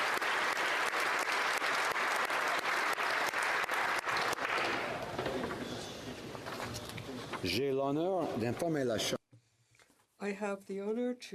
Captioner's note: applause